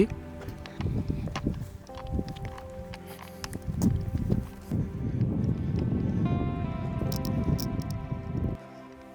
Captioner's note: wind blowing